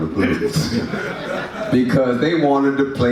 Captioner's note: audience laughs